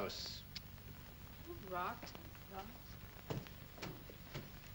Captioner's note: mutters